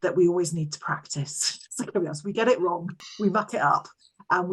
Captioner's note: chuckles